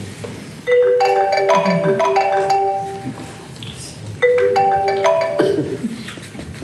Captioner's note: ringing